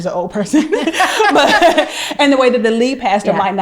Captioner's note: laughing